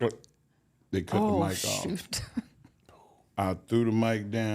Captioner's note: laughs